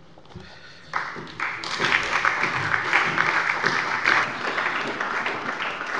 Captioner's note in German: Beifall bei der SPD